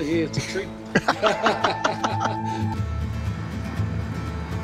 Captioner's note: both laughing